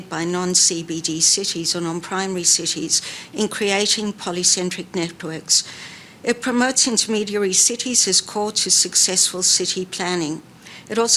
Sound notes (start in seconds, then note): none